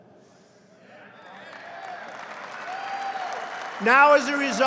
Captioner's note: applause